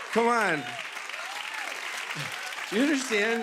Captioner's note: cheers and applause